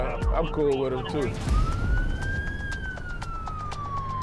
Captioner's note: siren wailing